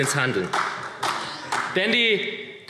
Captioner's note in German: Beifall